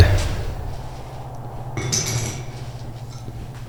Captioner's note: revolver clatters